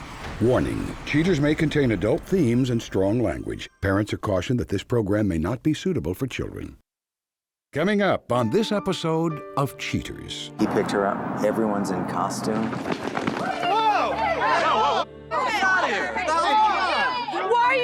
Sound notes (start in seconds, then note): 12.6 clamoring